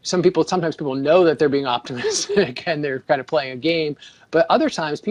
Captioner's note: laughs